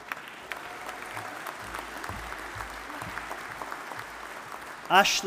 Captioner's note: audience applauding